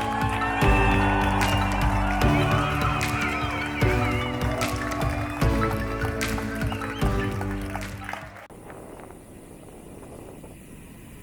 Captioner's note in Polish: Aplauz